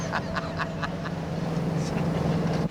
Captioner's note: laughs